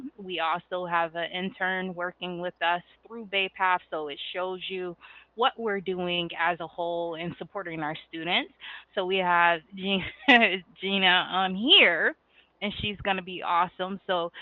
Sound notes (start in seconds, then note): 10.1 laughs